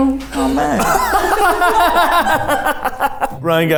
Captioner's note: everyone laughing